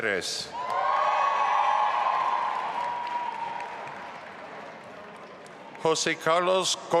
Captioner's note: audience applauding and cheering